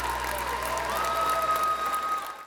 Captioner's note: music ends, crowd cheers; crowd cheers fade out